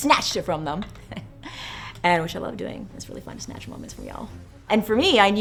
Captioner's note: laugh